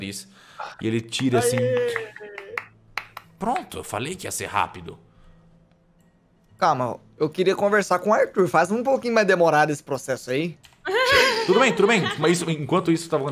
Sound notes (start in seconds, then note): 1.1 clapping; 10.8 laughs